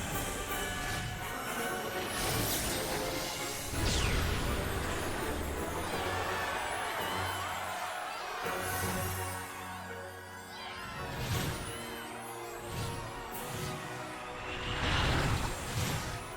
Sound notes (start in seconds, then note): 5.8 all cheering